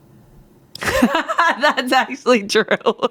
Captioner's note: laughs